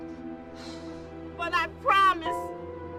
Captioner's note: reporter exhales